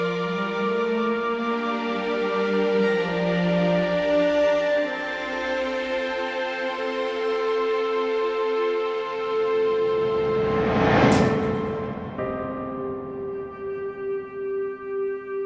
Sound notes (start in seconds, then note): 5.2 somber music continues; 9.9 memory image whooshes; 12.7 somber music